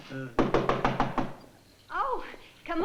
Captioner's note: knocking